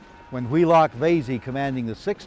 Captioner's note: soldiers shout